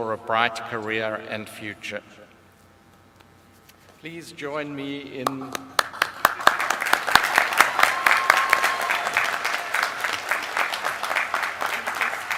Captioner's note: applause